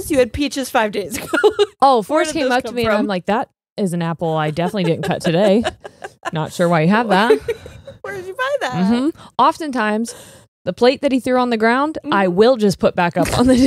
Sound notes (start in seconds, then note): 1.1 laughs; 4.4 laughing